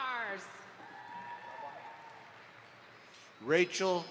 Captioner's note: audience applauds